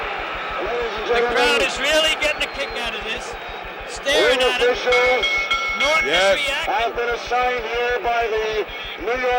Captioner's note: bell sounds